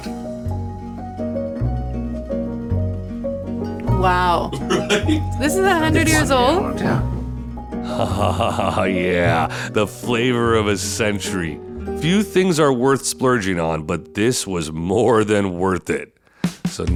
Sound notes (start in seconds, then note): 0.0 light music; 8.0 laughing